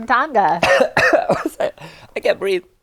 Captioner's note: coughs